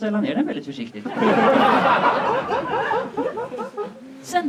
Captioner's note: audience laughs